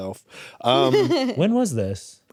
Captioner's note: chuckles